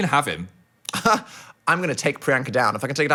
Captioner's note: scoffs